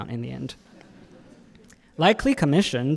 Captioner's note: audience laughing